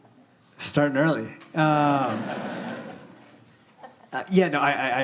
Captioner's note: audience laughing